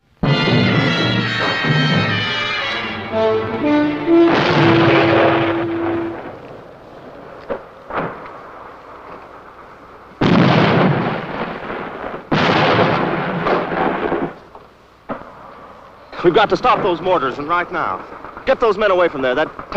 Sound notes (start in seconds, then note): 0.1 instrumental music; 4.5 bomb explosion